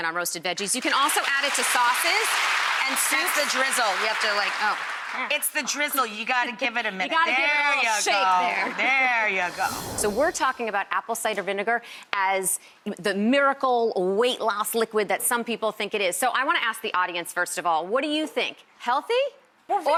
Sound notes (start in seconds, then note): 0.7 audience claps; 8.2 audience laughing